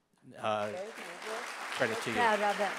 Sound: audience applauding

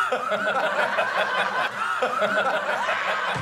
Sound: laughing

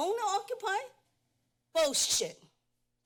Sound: none

